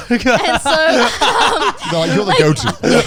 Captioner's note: laughing